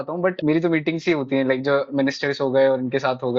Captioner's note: speaking in foreign language